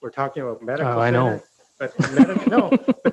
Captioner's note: laughs